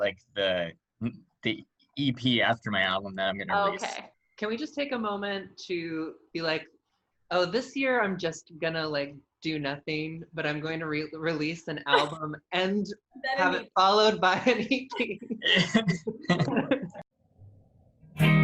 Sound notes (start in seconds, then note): 17.0 laughter